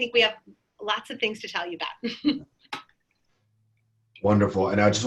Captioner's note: chuckles